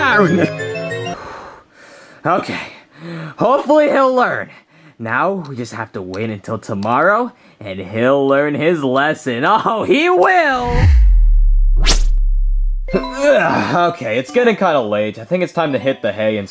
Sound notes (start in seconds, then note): 1.1 Junior exhaling; 11.7 text whooshing; 13.2 Mario grunting